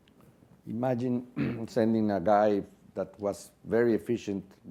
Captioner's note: cough